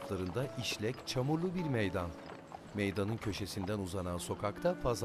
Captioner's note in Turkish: Sokak ortam sesi